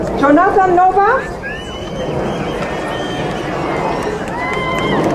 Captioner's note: crowd cheering